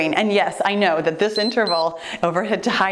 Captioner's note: timer beeps